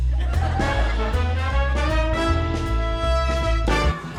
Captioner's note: audience laughing